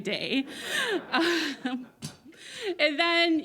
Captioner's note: all laugh